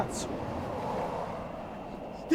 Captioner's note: vehicle passing